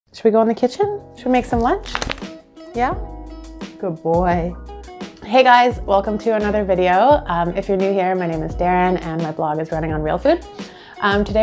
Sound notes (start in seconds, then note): 1.8 dog shaking